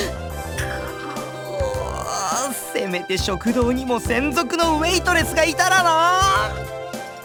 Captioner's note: frustrated groan